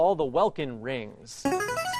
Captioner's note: ringer